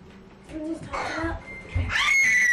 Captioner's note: screams